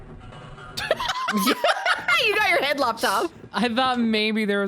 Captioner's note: both laugh